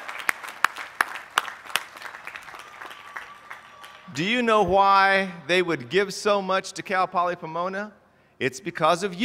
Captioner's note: applause